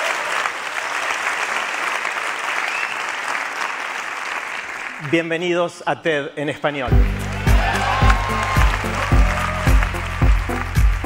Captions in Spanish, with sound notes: (Español) ¡Bienvenidos a TED en Español! (Aplausos)